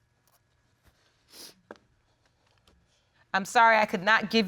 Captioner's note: sobs and sniffles